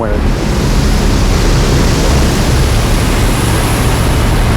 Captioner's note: plane whooshes